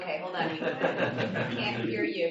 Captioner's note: laughter